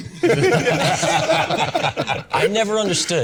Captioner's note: all laughing